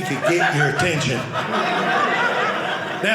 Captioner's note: audience laughing